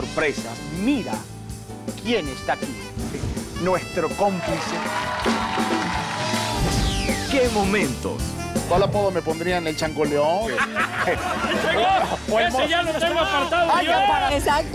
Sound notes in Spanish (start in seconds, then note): 4.3 Aplausos; 4.5 Gritos; 10.5 Risas; 13.7 Risas